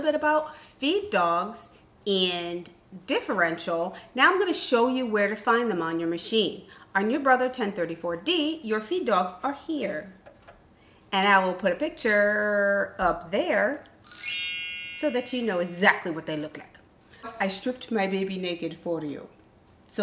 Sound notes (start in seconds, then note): 14.0 chime